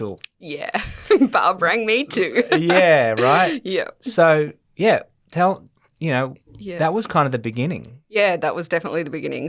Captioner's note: laughs